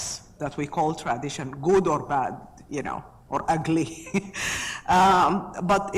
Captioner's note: laughs